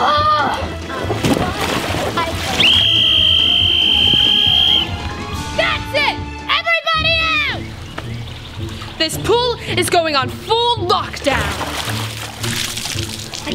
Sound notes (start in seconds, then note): 2.6 whistle blowing